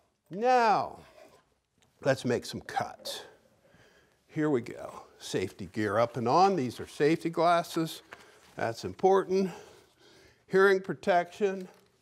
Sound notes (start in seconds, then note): none